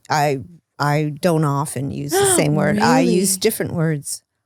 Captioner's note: gasps